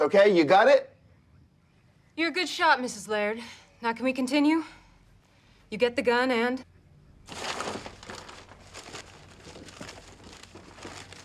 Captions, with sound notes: You got it? You're a good shot, Mrs. Laird. Now, can we continue? You get the gun and... [RUSTLING]